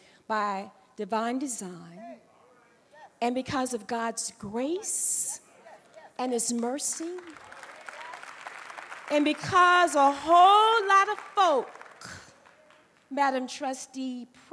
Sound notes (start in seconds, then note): 6.4 applause